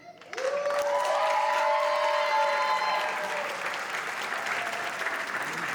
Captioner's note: applause